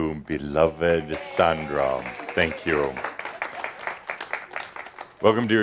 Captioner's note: some applause